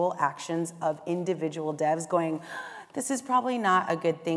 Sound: inhale

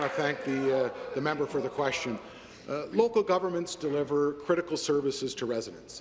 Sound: applause

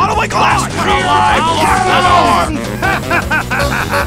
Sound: angry battle sounds

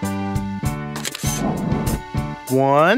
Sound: SFX: Camera Shutter

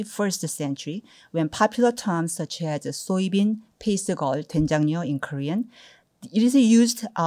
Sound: korean

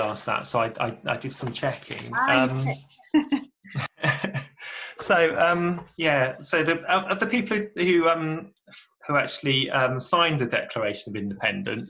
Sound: laughs

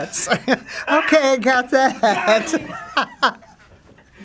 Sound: laughs; laughing

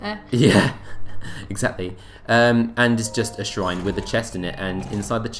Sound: laughing

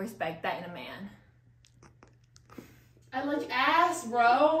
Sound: awkward silence

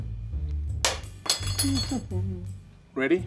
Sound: spoon clatters

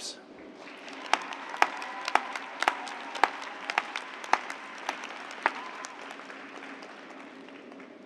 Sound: cheers and applause

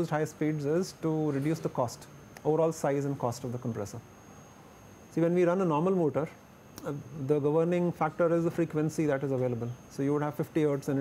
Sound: blower

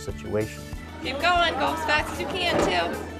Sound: background Clinical Noise

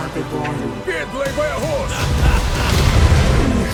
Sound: evil laughter

